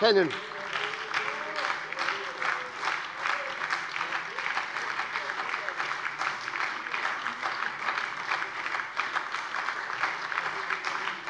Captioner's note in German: Anhaltender lebhafter Beifall bei der SPD - Zurufe von der CDU